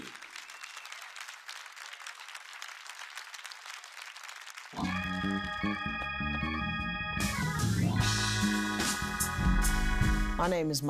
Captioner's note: crowd claps